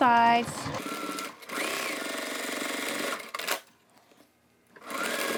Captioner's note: machine whirrs